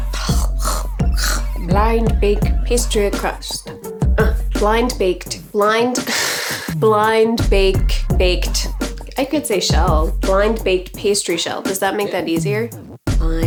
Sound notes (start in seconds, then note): 0.1 clears throat; 6.1 laughs